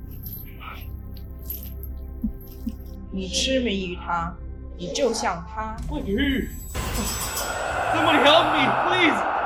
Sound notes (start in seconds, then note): 4.8 Mandarin language